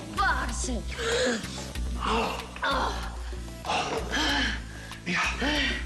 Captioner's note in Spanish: Gemidos